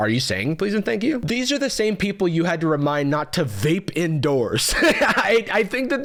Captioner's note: laughs